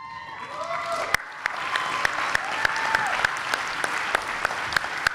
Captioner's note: applause and cheers